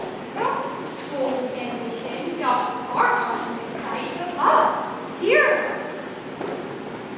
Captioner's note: none